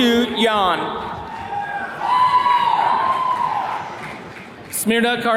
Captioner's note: attendees cheering